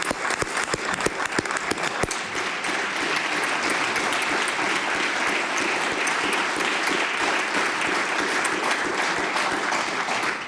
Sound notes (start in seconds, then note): 7.4 applause